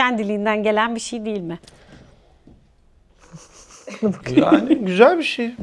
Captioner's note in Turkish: kahkaha